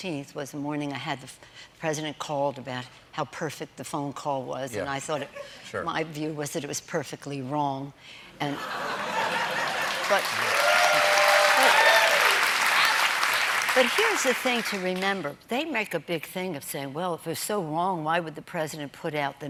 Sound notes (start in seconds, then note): 8.5 laughter; 9.4 cheers and applause